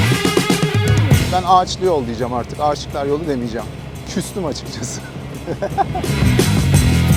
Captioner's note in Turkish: Hahahahah